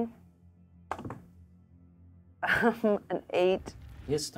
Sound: die thuds; laughs

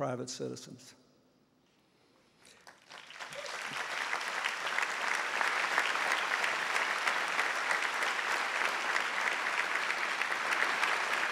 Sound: applause

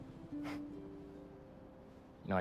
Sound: laugh

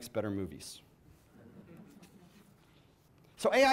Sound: audience chuckles

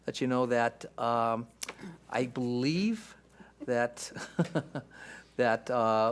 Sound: laughs

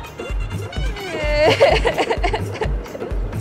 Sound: crying

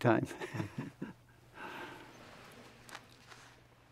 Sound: laughs

